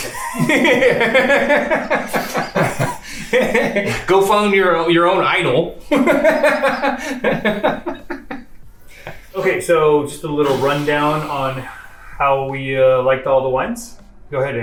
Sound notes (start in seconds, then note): 0.0 both laughs; 5.8 laughs